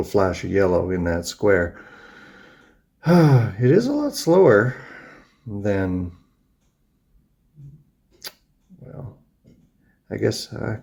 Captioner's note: sighs